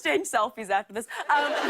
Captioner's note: laughter